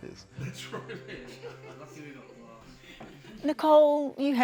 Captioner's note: all laugh